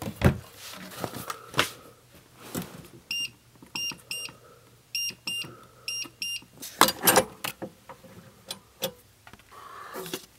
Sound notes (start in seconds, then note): 0.2 cupboard door opens; 3.0 beeping sounds; 6.8 safe opens